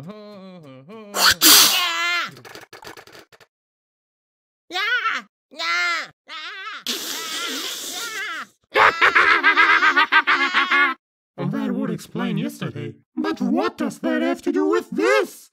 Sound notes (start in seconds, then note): 0.0 keeps humming; 1.1 whip sound; 5.5 repeadedly screams; 8.7 chuckles; 8.7 laughs